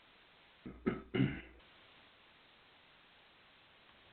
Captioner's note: clears throat